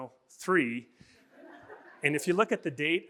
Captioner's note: audience laughing